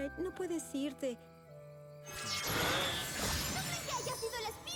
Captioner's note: zap